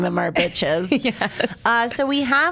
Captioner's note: laughs